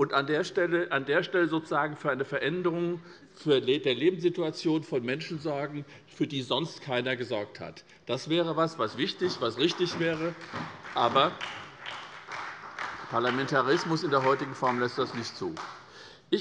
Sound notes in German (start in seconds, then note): 7.8 Beifall bei der SPD